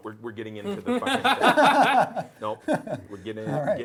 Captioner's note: laughing